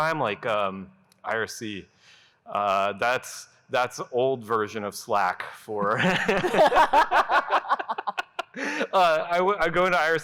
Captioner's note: laughter